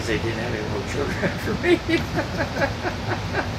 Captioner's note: laughs